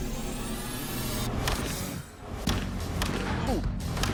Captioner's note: thudding